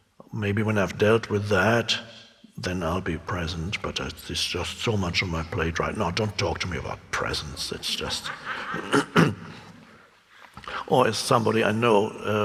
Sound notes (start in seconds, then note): 8.6 clears throat; 9.3 audience laughing